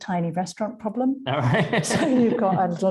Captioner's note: laughing